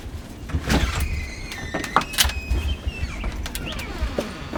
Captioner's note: door squeaking